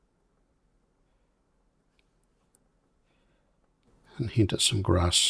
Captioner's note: silence